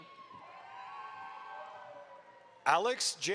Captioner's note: audience applauds